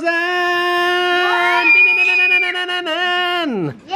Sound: screaming

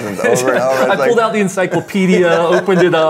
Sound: both laugh

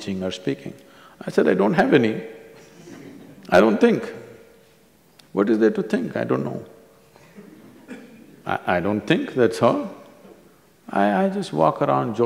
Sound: few laugh

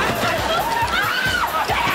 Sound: screaming

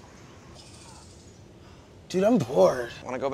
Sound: birds chirping

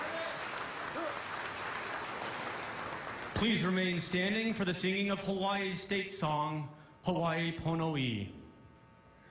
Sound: cheers and applause

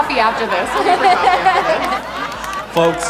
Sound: laughing

